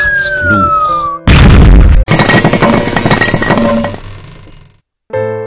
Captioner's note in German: Detonation und Geschepper